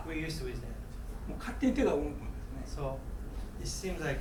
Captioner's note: speaking in foreign language